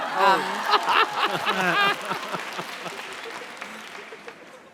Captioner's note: laughter